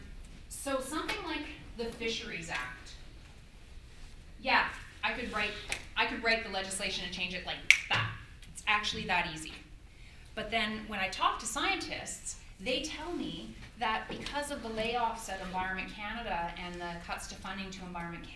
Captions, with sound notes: so something like the Fisheries Act yeah, I could write the legislation and change it like that [snaps fingers] it's actually that easy but then when I talk to scientists they tell me that because of the layoffs at Environment Canada and the cuts to finding at Environment Canada